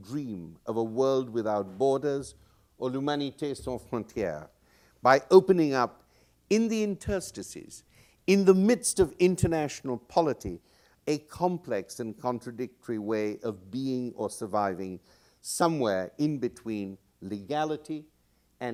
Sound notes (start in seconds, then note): 3.1 non-english speech